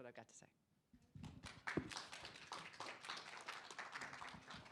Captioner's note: applause